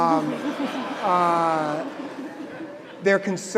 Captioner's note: audience laughing